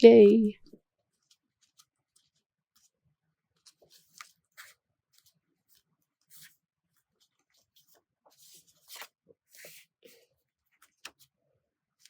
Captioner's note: flipping pages